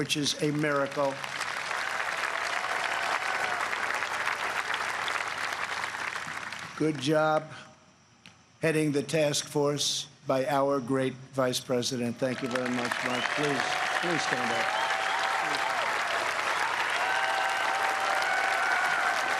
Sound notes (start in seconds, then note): 10.1 applause